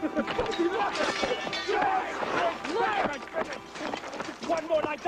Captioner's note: Benjamin laughs, metal clanks, fighting